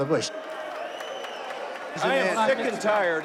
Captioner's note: crowd cheering